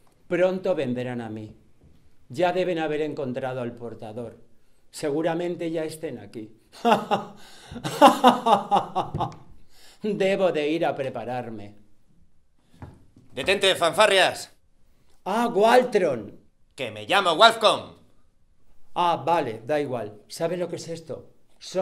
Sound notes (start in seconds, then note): 7.8 evil laughter